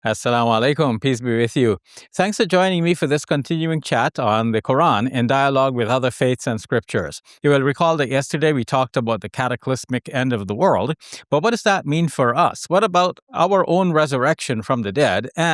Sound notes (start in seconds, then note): 0.3 speaking in Arabic